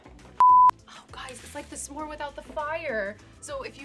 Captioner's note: beep